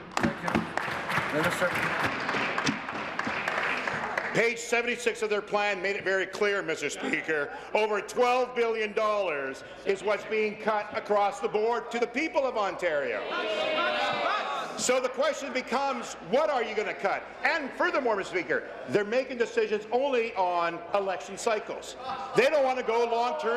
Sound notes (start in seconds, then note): 3.1 applause